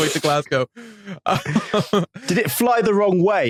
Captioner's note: group snickers